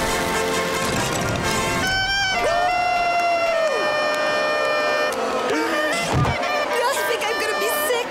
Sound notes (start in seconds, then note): 1.8 clarinet playing; 3.6 booing; 5.1 clarinet playing